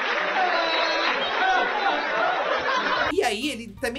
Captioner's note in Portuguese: risos continuam